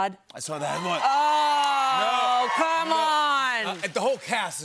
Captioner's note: cheers and applause